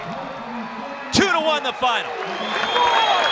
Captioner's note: cheering